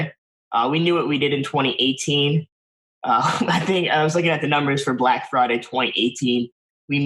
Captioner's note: laughs